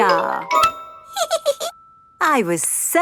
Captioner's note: giggles